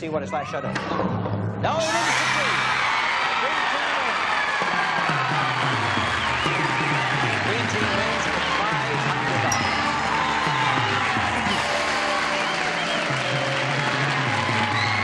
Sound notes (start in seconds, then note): 3.2 applause